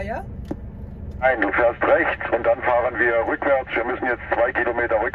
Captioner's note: conversation in German